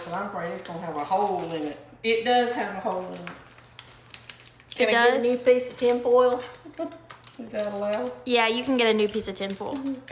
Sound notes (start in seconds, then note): 6.6 chuckles